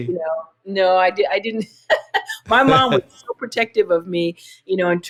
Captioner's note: laughter